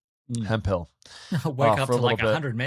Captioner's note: chuckling